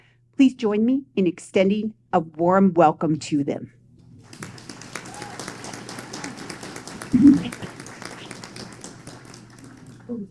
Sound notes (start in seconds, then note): 4.2 applause